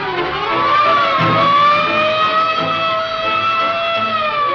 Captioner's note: sirens wailing